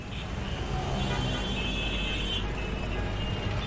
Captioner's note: traffic noise